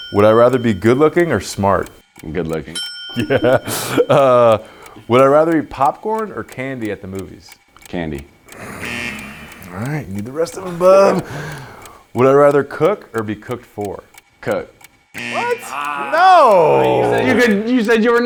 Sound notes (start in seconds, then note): 3.2 laughs; 8.6 buzzer buzzing; 15.1 buzzer buzzing